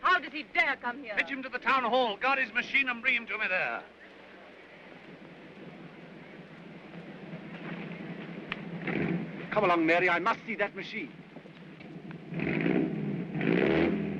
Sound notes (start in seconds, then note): 6.2 aircraft engine revs; 11.8 engine revvs